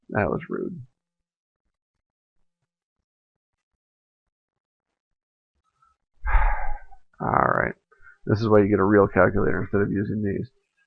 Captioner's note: sigh